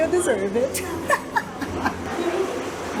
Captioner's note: laughs